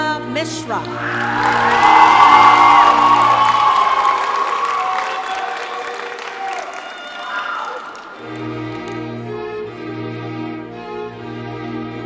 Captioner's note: cheering and applause